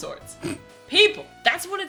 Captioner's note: snorts